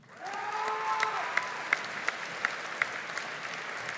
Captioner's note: audience applauding